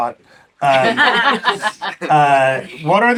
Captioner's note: laughs